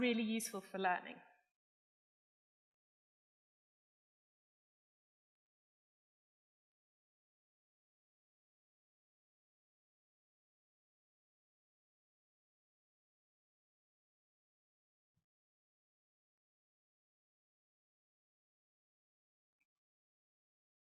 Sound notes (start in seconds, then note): 7.0 silence